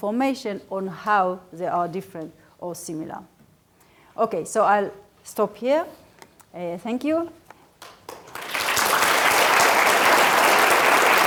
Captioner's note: applause